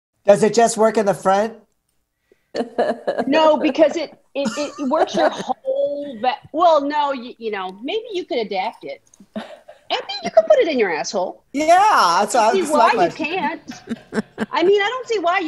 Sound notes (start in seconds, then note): 4.4 chuckling; 13.6 chuckles